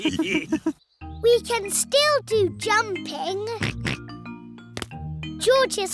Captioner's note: all laughing; oinks